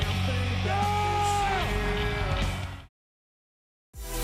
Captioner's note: Batista roars